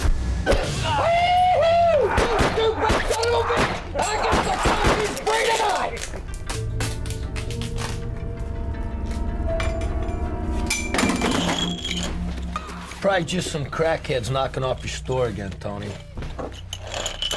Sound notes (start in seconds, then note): 2.1 gun shots; 10.8 pots and pans clattering